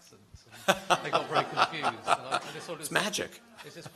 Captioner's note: laughter